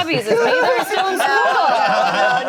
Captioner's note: everyone laughing